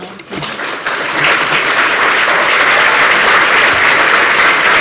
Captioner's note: applause